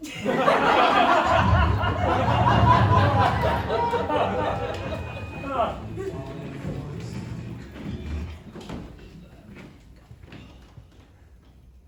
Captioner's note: universe shifting sound